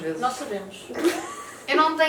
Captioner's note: laughs